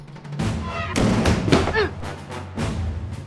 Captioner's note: door creaks